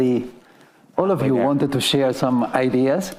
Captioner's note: faintly speaking